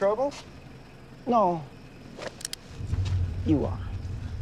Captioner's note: gun clicking